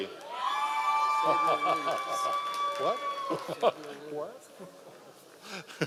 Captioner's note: members of the audience cheering; laughing